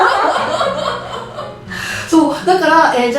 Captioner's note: haha